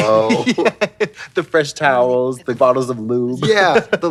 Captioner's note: chortles; laughs